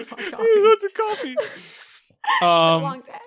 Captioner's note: laughing